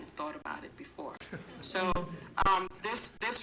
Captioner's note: chuckling